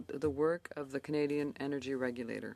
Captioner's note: speaking in French